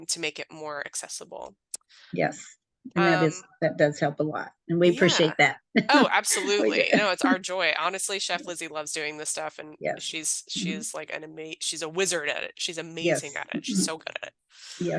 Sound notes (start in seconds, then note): 5.7 laughs